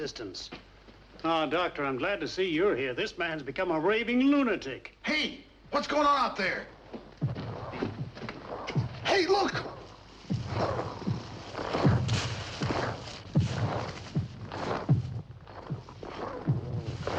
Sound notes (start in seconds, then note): 7.2 demônios batendo